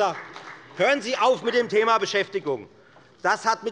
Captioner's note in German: Beifall bei der FDP